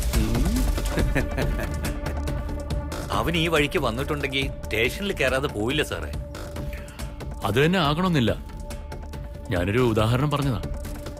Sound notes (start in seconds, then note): 0.8 Laughs